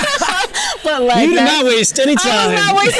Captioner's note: both laugh